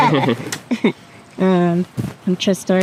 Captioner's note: group laughs